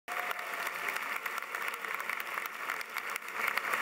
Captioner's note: audience applauding